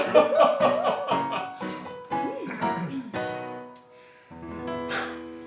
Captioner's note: laughter